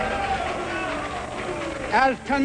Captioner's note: crowd jeering